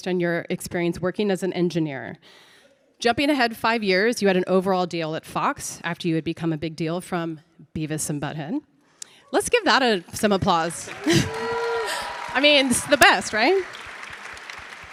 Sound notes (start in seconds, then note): 10.3 audience applauding; 10.5 audience cheering